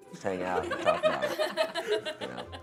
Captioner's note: audience laughing